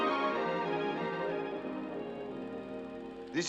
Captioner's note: projector running